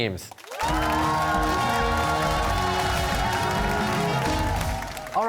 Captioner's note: cheers and applause